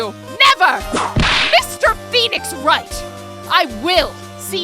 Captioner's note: whip crack!